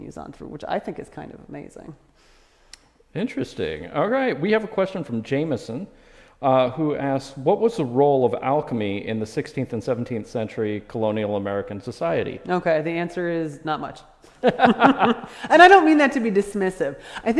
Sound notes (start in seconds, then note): 14.3 laughter